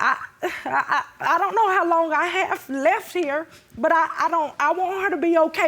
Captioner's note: stammers